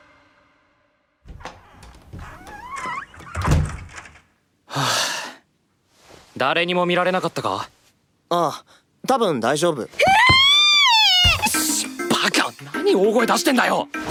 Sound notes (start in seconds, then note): 4.7 sigh; 10.6 shrieks in horror